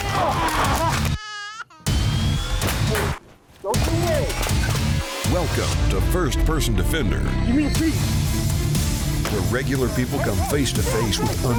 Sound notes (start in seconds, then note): 0.0 gunshots firing; 0.1 baby crying; 0.3 yelling